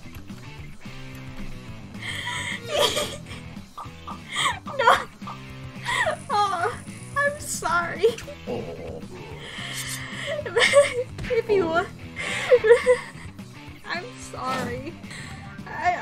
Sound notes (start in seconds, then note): 0.1 laughs; 4.7 through laughter; 9.6 laughs; 11.2 through laughter